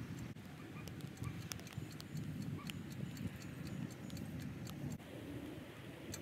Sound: sped up flossing/timer ticking; louder ticking

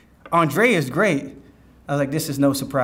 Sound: none

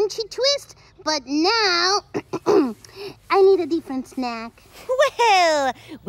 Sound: clears throat

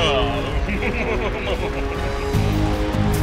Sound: smug laughter

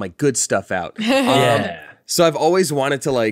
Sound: laughs

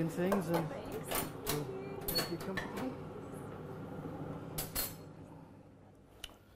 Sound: kettle boiling, spoons clattering

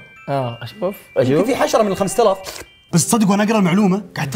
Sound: slurps

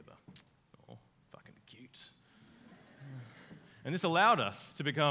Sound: audience laughs

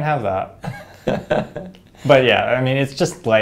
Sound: laugh

